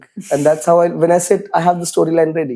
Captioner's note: laughs